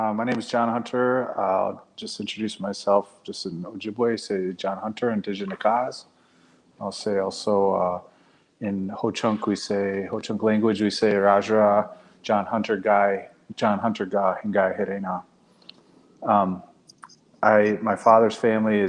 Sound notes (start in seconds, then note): 5.0 speaking Ojibwe; 12.9 speaking Ho-Chunk